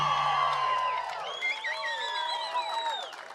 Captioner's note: cheering